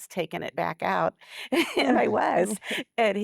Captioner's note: giggles